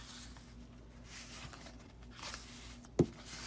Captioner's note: paper sounds